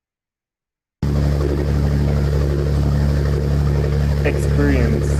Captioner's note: boat engine roars